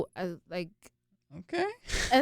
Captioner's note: both chuckle